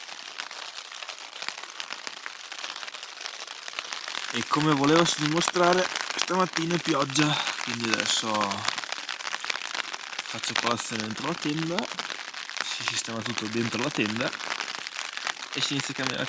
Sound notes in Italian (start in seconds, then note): 6.8 Applauso